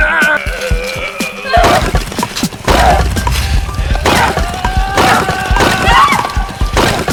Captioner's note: weapons thudding; fighters grunting